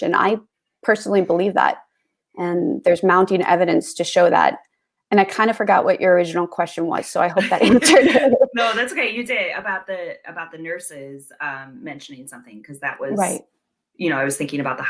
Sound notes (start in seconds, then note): 7.4 laughter